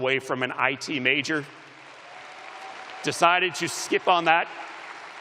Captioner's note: cheers and applause